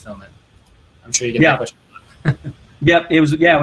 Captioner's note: laughs